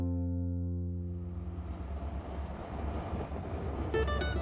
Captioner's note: train passes